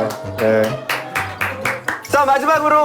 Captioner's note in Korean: 박수박수